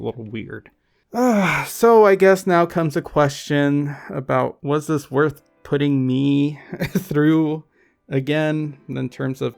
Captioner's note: sighs